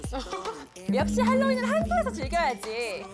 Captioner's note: american event sound effect